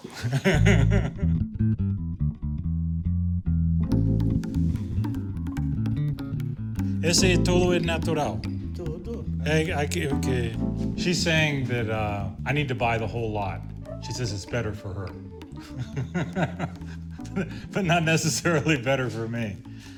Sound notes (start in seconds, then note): 0.0 laughs; 9.4 speaks Portuguese; 15.6 laughs